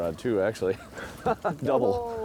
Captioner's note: laughing